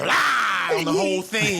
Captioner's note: screaming